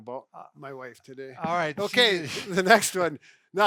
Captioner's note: chuckling